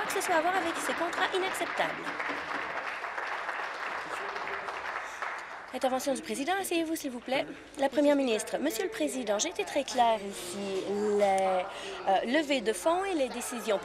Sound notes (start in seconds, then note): 4.8 applause